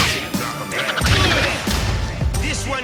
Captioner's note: blows thudding